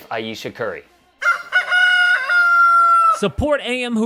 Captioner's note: rooster crowing